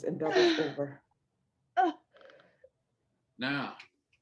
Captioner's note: Peaches moaning